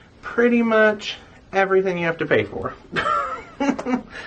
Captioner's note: laughs